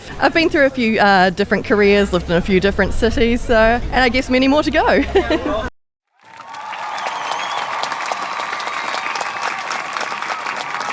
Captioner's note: applause